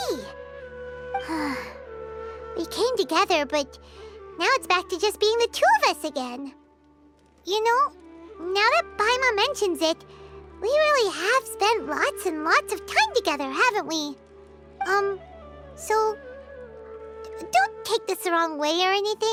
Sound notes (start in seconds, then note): 1.2 sigh